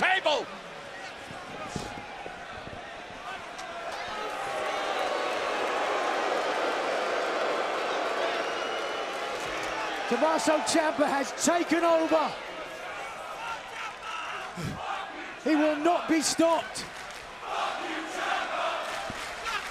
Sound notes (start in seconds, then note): 6.0 crowd chatter; 19.5 crowd cheering